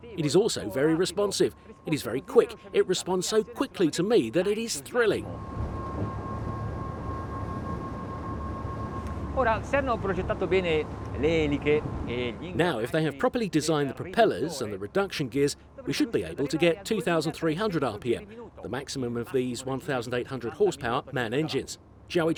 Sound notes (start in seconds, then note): 9.8 speaking in foreign language